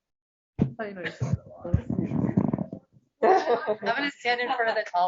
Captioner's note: background chatter